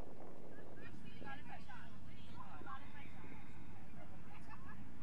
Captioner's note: crowd chattering